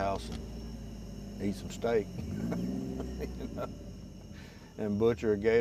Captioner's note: laughs